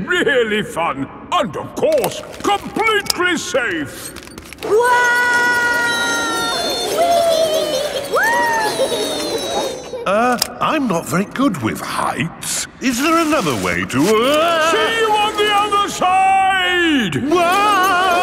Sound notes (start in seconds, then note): 5.2 all yelling; 18.0 yelling